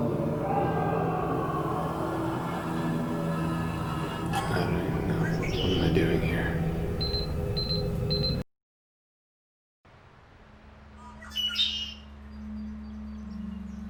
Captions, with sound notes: [yell] I don't even know, what am I doing here? [beeping] [songbird]